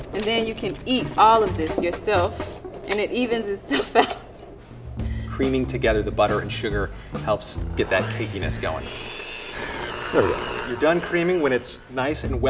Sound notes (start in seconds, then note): 3.7 laughs; 7.8 mixer whirs